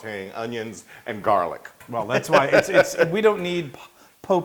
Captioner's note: laugh